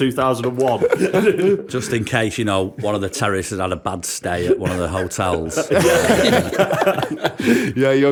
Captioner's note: laughter